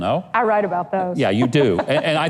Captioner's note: laughs